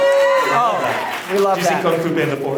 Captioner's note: audience cheers